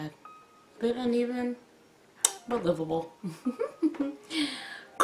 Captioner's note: giggles